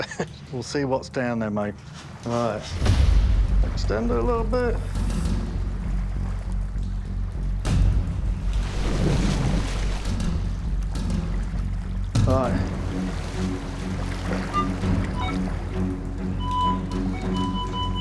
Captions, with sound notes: We'll see what's down there, mate. All right. Extend it a little bit. All right. [metal detector chirping] [metal detector beeping]